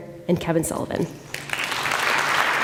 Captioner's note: applause